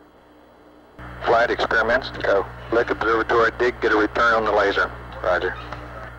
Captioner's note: mission Control Audio